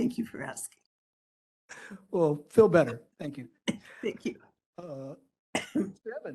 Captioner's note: coughing